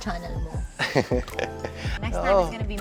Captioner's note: giggles